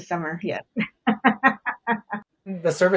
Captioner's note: laughs